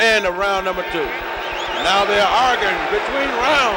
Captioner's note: bell sounds